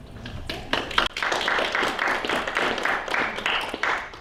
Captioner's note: audience applauding